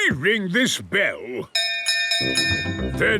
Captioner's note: bell chimes